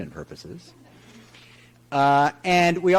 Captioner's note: audience chuckles